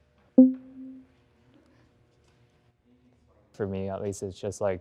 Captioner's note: banner dinging